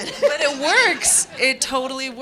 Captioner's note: audience laughing